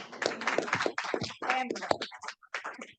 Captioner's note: audience applauds